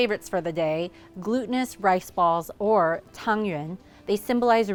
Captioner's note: speaks foreign language